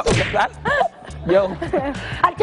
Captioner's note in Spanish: risas